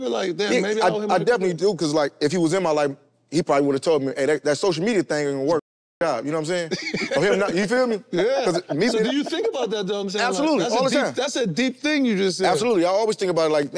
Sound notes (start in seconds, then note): 6.7 laughs; 10.2 haha